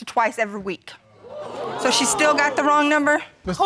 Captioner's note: crowd